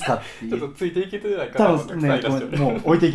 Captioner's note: laughs; laughs